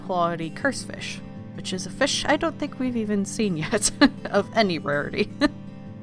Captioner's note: laughs